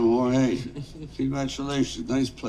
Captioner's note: George giggling